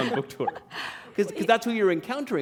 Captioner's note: laughter